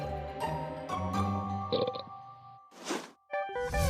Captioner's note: burps